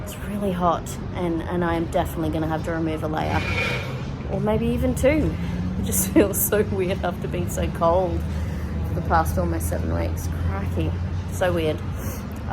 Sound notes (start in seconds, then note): none